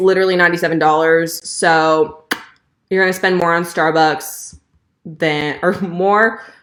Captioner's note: smacks lips